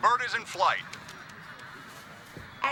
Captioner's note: crowd